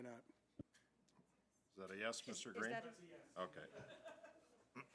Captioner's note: speaking French